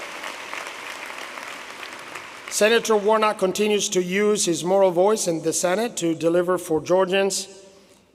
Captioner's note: applause